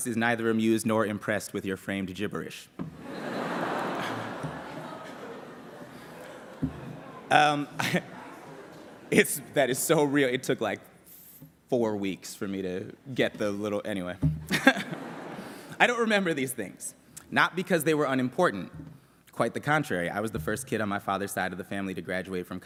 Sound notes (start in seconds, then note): 2.9 laughter